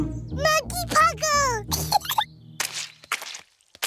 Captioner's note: giggles